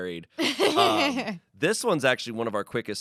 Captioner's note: laughs